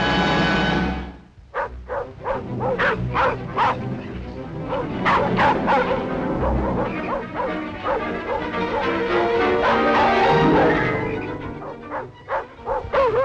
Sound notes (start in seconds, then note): 1.0 dogs barking